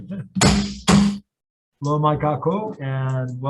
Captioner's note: gavel banging